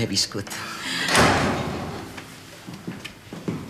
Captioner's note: cop de porta